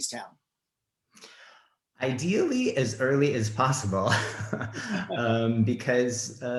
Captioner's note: laughs